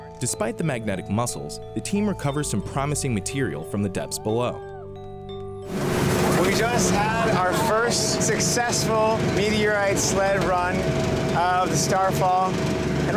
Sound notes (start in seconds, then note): 5.9 boat engine; 6.2 cheering